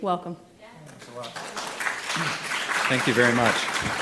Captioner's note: applause